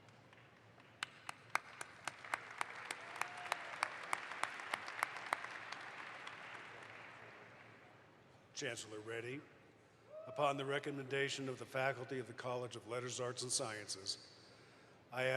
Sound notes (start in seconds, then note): 1.0 audience applauds